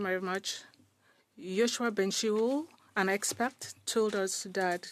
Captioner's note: speaking French